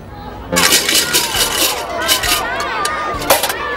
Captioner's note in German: Münzen klimpern